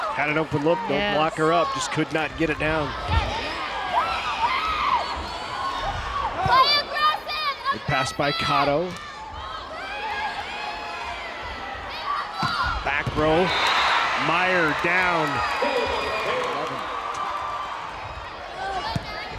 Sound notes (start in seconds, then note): 2.7 players yelling; 14.1 crowd and players cheering